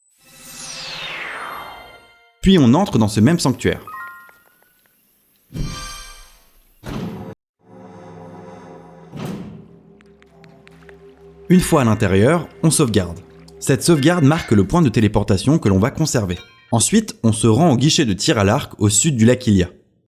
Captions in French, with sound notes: [bruit de téléportation] Puis on entre dans ce même sanctuaire. [bruit de "l'ascenseur"] Une fois à l'intérieur, on sauvegarde. Cette sauvegarde marque le point de téléportation que l'on va conserver. Ensuite, on se rend au Guichet de tir à l'arc au sud du lac Hylia.